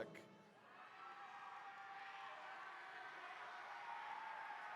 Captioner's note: attendees cheering